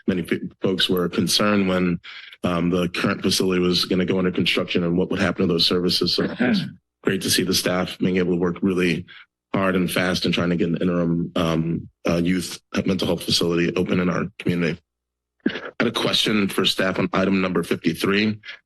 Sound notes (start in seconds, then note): 6.2 clears throat